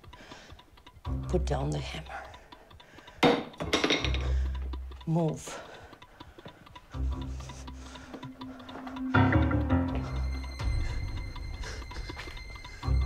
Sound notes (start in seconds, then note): 3.3 hammer clangs; 6.1 tense instrumental music